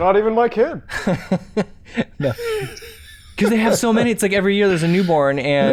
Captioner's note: chuckles